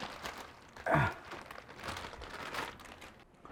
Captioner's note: paper rustling; Mercer grunts